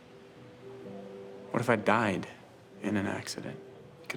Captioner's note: none